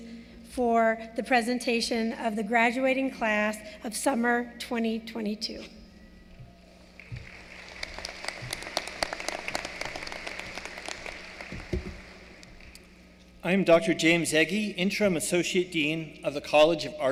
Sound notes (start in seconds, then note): 5.5 applause